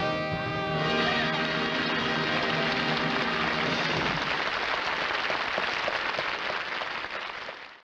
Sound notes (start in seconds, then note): 0.0 music climaxes; 4.0 applause